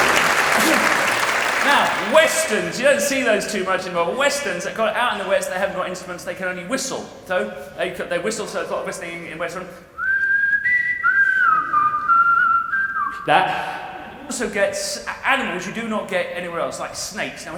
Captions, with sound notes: Now 'Westerns'. You don't see those too much any more. But Westerns. Out in the West they haven't got instruments, they can only whistle. So there is a lot of whistling in Westerns. [WHISTLES] That. You also get animals you do not get anywhere else, like snakes.